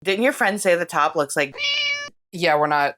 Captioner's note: meow